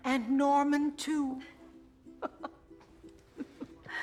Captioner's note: theresa chuckles